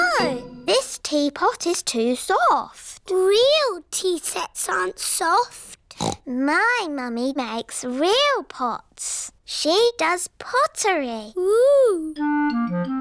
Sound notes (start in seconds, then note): 5.9 snorts